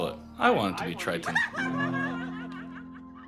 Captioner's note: crowd laughs